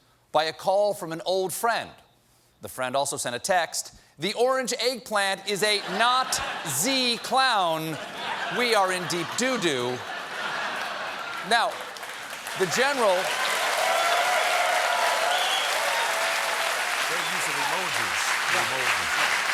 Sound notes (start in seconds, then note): 8.4 laughter; 9.5 cheers and applause